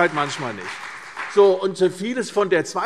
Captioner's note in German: Beifall CDU und BÜNDNIS 90/DIE GRÜNEN